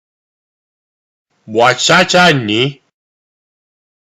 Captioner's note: speaking korean